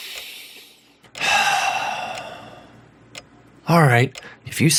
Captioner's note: sighs